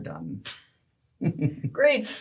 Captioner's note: laughs